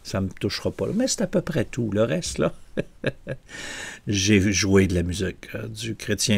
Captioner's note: laughs